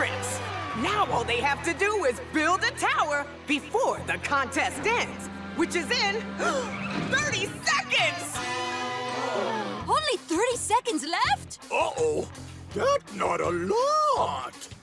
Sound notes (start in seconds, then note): 6.1 gasps; 8.6 gasping